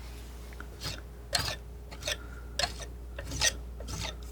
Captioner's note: scraping